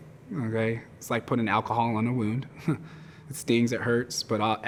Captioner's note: chuckles